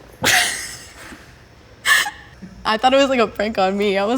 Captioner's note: laughs